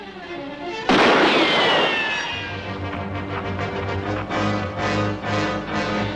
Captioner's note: gunshot - tense music